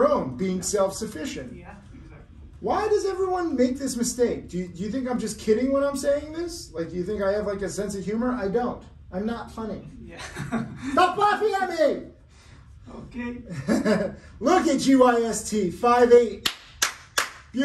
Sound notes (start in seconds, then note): 10.6 laughs; 13.5 laughing; 16.4 clapping